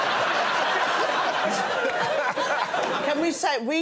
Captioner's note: laughter